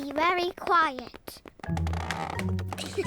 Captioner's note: floorboards creak; all giggle